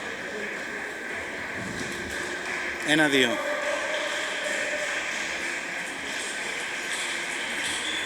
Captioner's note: applause